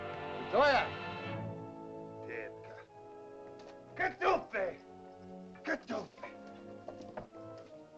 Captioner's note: soft dramatic music; speaking in caveman language; soft dramatic music